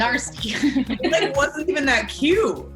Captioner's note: everyone laughs